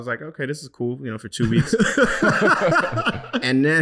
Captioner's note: laughing